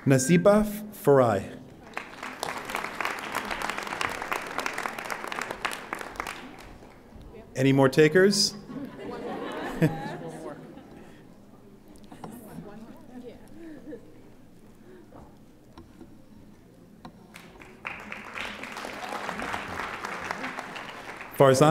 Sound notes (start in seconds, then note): 1.8 audience applauding; 8.6 audience laughing; 17.3 audience applauding